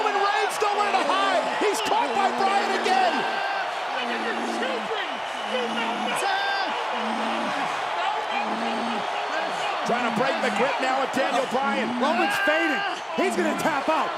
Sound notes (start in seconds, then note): 5.4 Roman groaning